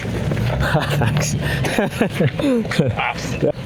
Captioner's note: laughter